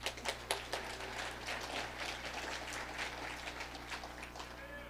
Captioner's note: audience applauding